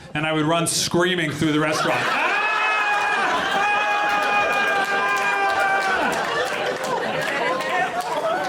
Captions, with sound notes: and I would run screaming through the restaurant. -[SCREAMING] -[AUDIENCE LAUGHING]